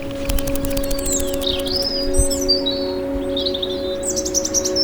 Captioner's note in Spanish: aleteo y silbido de pájaro